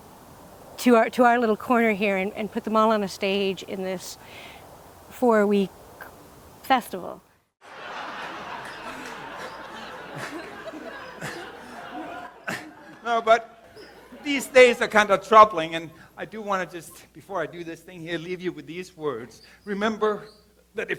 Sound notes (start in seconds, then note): 7.6 audience laughs